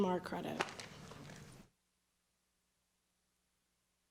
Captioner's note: applause